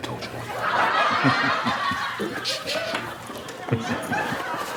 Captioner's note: audience laughs